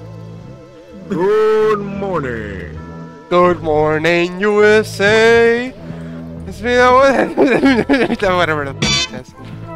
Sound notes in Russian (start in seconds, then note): 1.2 Серьёзным тоном; 6.7 Хреново поёт заставку